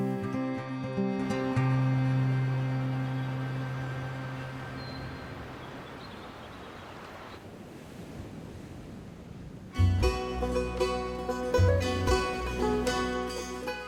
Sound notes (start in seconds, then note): 0.0 uplifting instrumental music; 4.7 birds chirping; 4.7 water rushing; 7.8 wind swooshing; 9.8 upbeat instrumental music